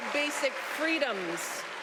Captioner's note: cheers and applause